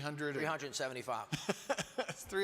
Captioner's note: chuckles